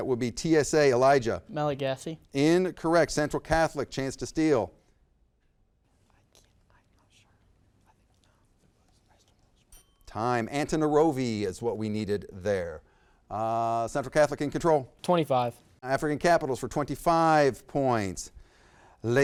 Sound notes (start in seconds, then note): 7.5 whispers; 9.7 bell dings